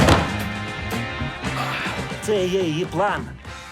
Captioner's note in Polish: przerażony krzyk; jęczy